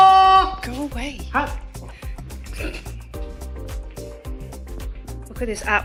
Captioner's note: snigger